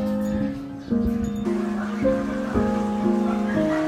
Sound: crowd chattering

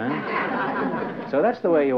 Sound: laughter

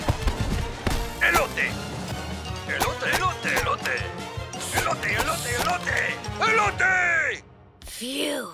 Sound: toy talking in Spanish

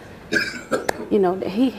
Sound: coughing

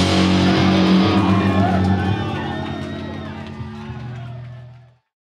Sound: audience cheering

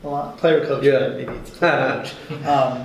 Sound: laughing

